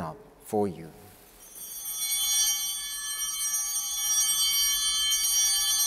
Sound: bell ringing

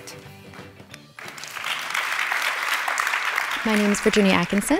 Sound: applause

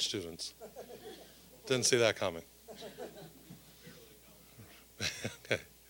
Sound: audience chuckling

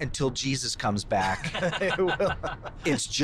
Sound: laughter

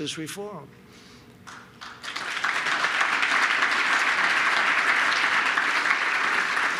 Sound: applause

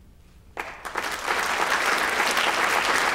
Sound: applause

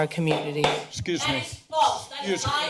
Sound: tap gavel

